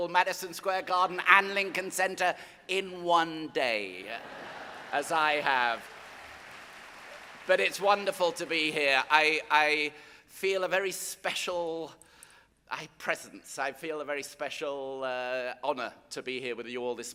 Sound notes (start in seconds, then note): 4.1 audience laughing; 4.2 audience applauding